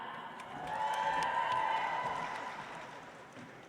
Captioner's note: audience applauds